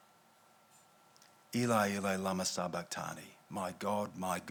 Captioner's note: speaking in foreign language